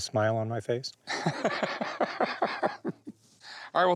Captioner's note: laughs